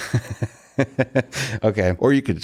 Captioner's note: Lex chuckling